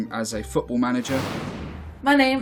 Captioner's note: air whooshing